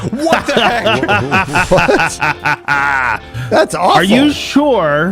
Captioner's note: evil laughter